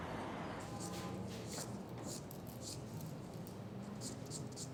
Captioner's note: file scraping